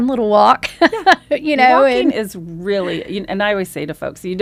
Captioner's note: laughs